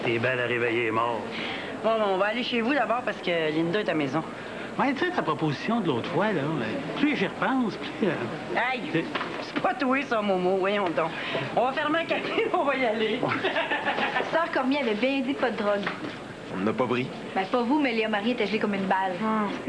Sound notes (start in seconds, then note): 13.2 Rires